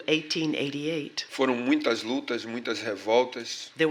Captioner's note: speaking portuguese